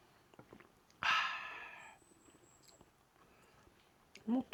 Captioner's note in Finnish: huokaus